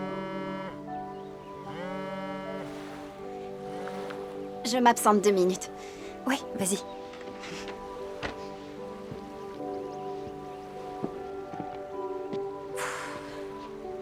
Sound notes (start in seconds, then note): 9.4 birds chirping